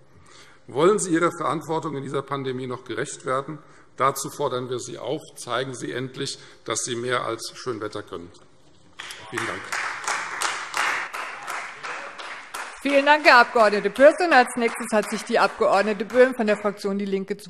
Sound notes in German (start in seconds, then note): 9.0 Beifall Freie Demokraten